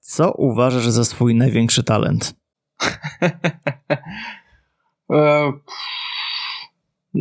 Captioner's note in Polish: śmiech